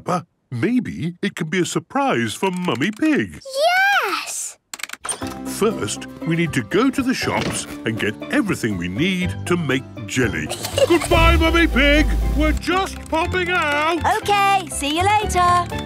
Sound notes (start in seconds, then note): 10.4 giggles